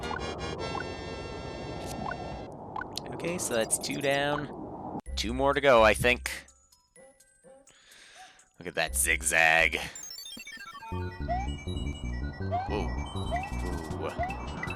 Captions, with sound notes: Okay, so that's two down. Two more to go, I think. (*inhaling*) Look at that zigzag. Whoa. Whoa...